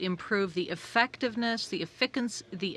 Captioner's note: speaking French